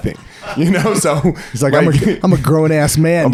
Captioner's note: laughing